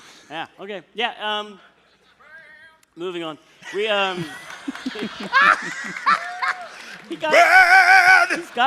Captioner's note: laughter